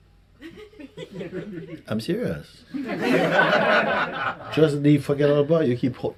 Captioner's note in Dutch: gelach